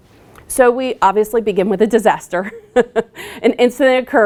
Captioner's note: laughs